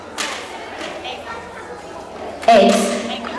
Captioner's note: woman speaking far from microphone